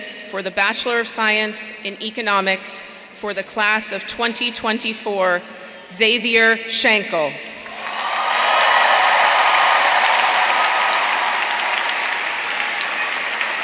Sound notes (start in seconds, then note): 7.6 audience applauding; 7.7 audience cheering